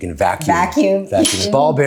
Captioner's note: chuckles